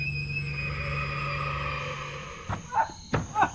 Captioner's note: A ghostly breath